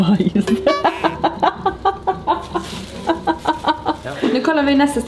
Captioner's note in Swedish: skrattar